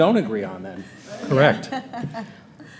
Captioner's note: laughing